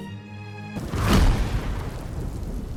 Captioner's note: lightning strike